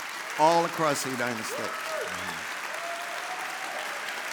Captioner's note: audience applauding